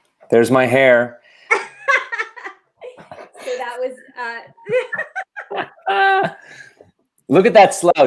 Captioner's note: laughs